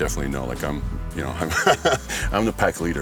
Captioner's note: laughs